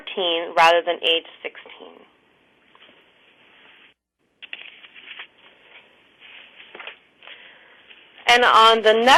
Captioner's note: pause